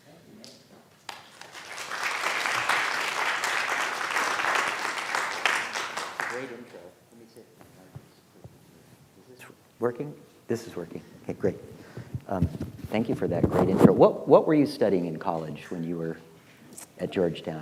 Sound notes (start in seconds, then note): 1.0 class applauding; 7.9 speaking faintly